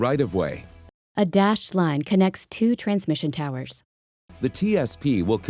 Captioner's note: voiceover